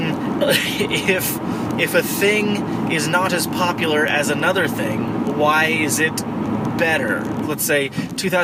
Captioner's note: laughing